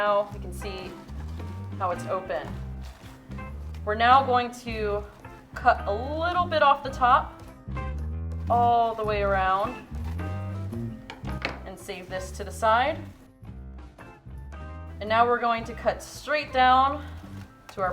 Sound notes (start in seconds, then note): 10.4 upbeat music; 11.0 scissors clunking